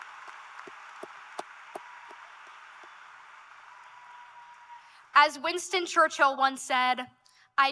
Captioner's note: cheers and Applause